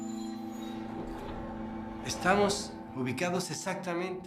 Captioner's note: speaking Spanish